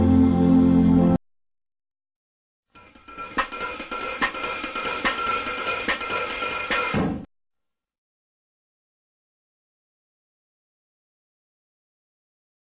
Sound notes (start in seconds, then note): 2.8 percussive music plays; 7.6 silence